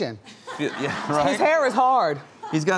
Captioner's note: audience laughs